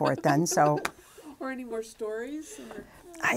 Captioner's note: laughing